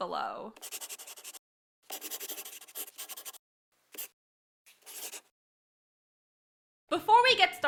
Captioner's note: the sound of a pen scratching. LOGO